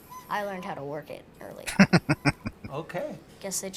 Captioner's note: laughing